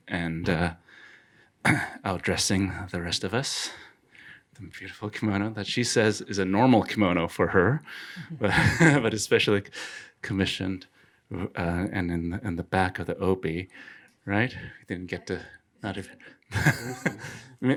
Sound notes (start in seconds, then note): 8.3 laughing; 16.5 laughing